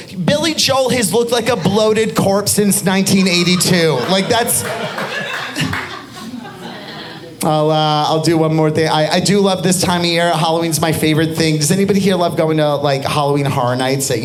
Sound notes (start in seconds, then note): 5.8 audience laughing